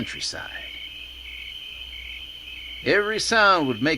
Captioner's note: insects chirping